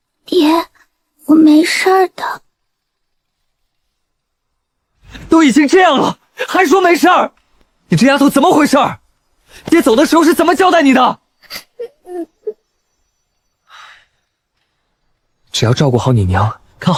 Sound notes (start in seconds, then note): 11.4 thinking hum